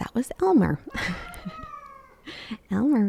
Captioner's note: Elmer meowing